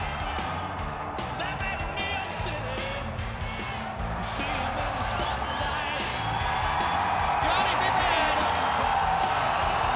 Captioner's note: crowd cheering